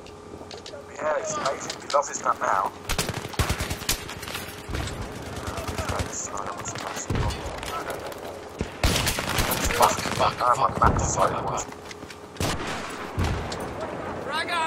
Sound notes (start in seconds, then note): 1.1 sarcastically